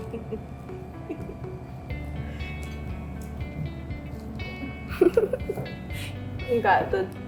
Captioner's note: giggles